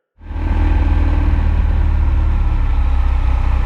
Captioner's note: plane rumbling